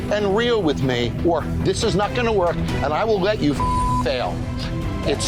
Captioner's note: beep